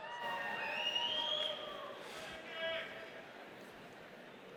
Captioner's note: audience cheers